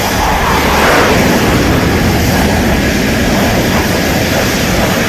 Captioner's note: jet plane engine roaring